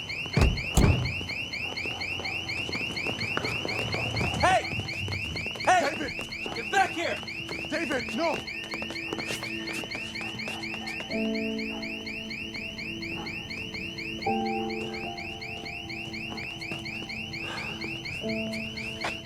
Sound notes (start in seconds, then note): 0.3 alarm continues; 9.2 alarm continues; 11.5 melancholic piano music